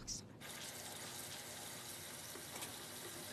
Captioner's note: TV shutting off; tap running